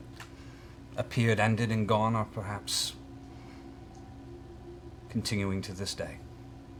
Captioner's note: none